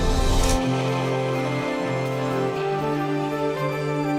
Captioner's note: shutter snaps